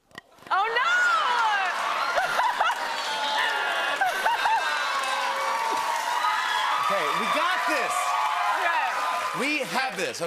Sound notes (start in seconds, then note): 3.3 laughter; 4.7 cheers and applause